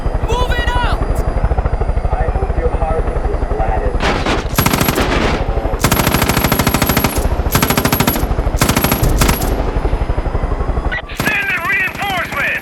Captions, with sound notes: Moving out. I hope your heart is flat. (gunfire) Send the reinforcements.